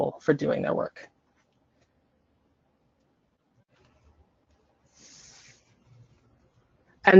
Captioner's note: silence